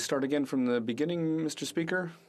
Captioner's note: speaking French